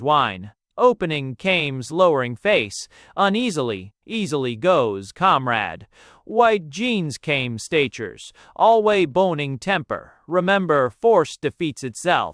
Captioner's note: _With abysmal contempt. _